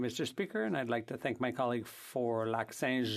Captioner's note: speaking French